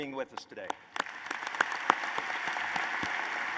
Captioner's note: applause